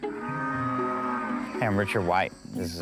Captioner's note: cows mooing